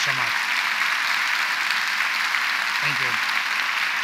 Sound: audience applauds

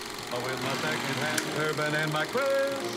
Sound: whirring

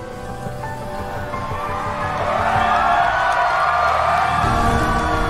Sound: cheering

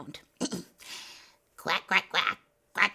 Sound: clearing throat

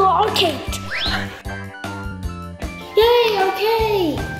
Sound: whistling

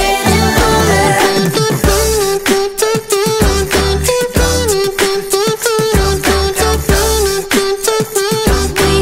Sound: beatboxing

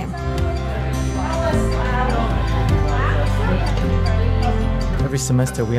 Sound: dinner conversation

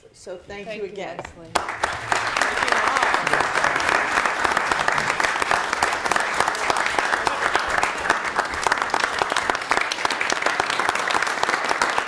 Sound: clapping

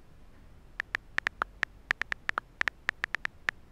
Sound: clicking

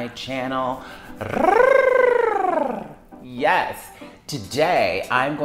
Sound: trills

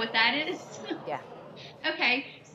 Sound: audience gasps

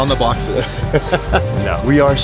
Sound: laughing

